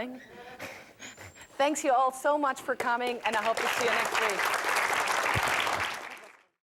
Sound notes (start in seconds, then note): 0.2 laugh; 3.2 applause